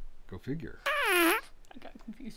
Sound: fart sound

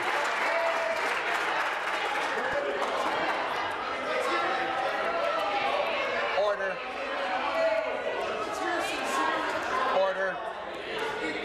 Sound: some Applause

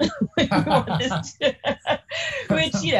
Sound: group laughs

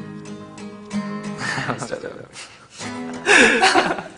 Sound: laughing

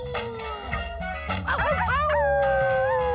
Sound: howling

